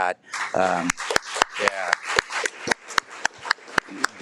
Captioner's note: audience clapping